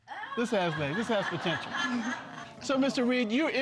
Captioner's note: audience laughing